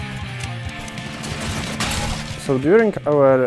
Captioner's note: clang!